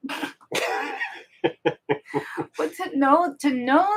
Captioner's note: both laughing